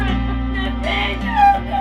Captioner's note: Beth sobs